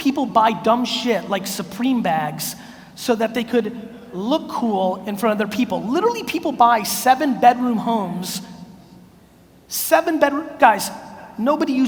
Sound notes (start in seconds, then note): none